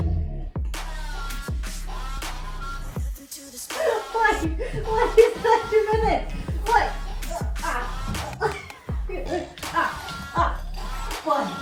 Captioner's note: various squeaky sounds as is "gently awoken"